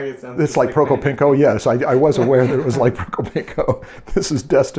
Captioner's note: laughter